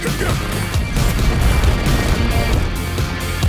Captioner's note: grunting and gunfire